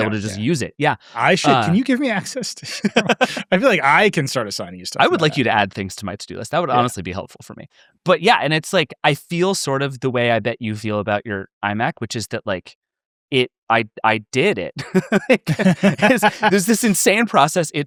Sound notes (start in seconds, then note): 2.9 laughing; 14.7 both laughing